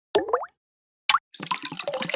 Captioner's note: water droplets falling; water filling